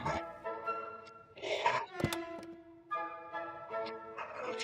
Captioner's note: vomits